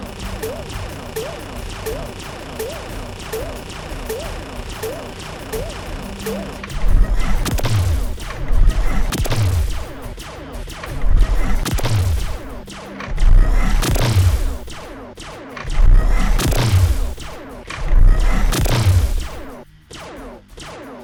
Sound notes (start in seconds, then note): 0.1 machine gun fire; 0.1 shots from a laser gun; 6.7 charging and shots from a plasma gun; 6.7 shots from a laser gun